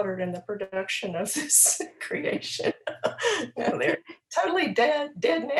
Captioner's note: laughing